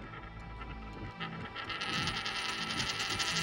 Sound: coin spinning

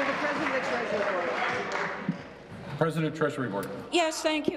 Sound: applause

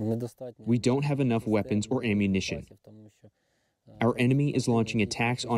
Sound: through translator

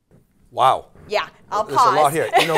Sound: laughs

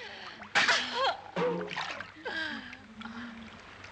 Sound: Babs gasping

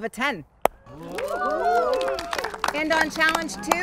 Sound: contestants cheer and applaud

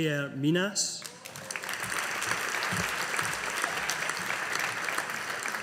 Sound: audience applauding

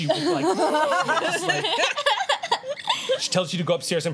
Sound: laughter

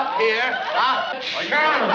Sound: achoo

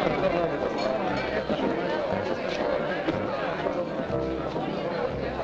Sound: crowd chattering

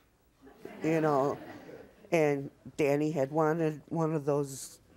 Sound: audience laughs

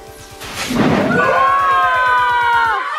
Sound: reverberating thudding; yelling

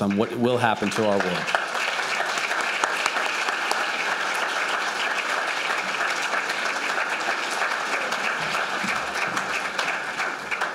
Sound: applause

